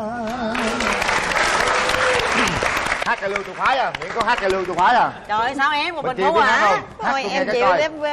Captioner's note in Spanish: Aplaudir